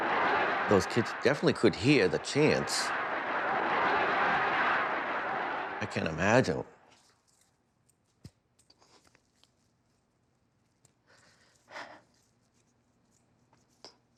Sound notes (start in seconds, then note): 10.8 exhales